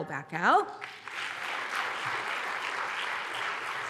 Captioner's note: applause